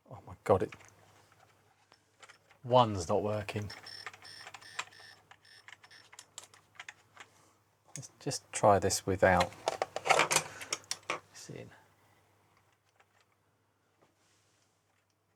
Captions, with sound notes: Oh my God, it, one's not working. (Clicking) Just try this without, this in.